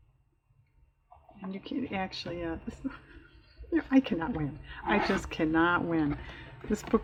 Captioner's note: laughs